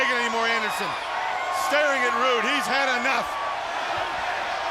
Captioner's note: crowd cheering